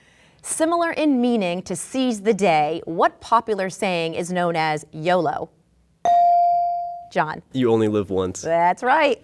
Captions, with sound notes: Similar in meaning to seize the day, what popular saying is known as YOLO? (bell dinging) Jon. - You only live once. - That's right.